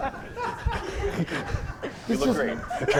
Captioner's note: laughter